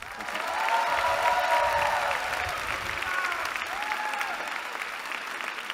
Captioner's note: cheering